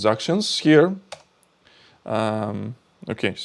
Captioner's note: keyboard clicking